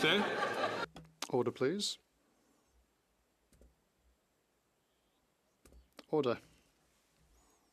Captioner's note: some Applause